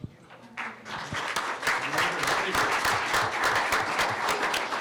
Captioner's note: applause